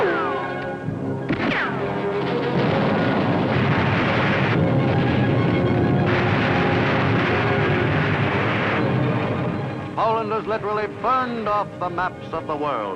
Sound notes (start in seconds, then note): 0.0 artillery blasting; 1.2 bullets ricochet; 3.0 explosions boom; 5.6 fire roaring